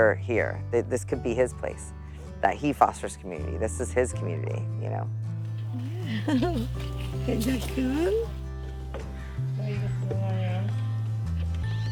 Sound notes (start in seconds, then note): 5.5 laugh